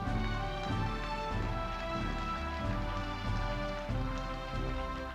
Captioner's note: audience applauding